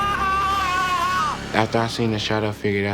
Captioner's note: shouting